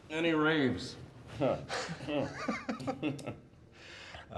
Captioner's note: laughing